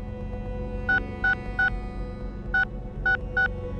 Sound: phone beeps

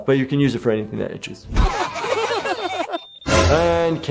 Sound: kids laughing

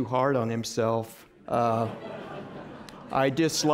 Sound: laughter

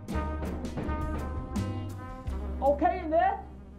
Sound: banging

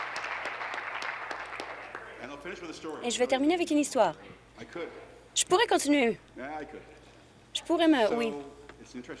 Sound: applause

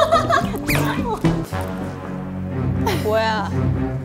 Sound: bump

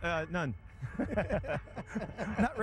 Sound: laughter

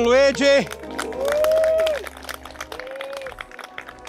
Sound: group applauds

